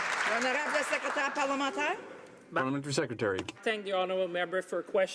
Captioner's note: some Applause